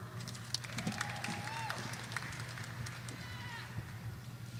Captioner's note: audience applauding